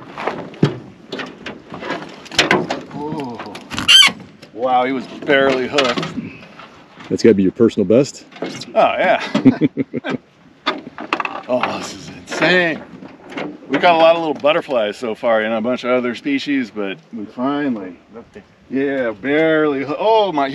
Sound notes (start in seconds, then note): 3.4 clanking; 10.8 chuckling